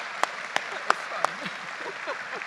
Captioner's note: laughs; audience applauding